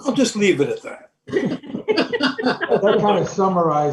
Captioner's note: board members start chuckling